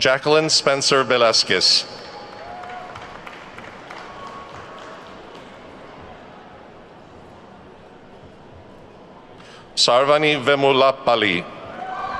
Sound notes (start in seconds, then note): 1.7 attendees clapping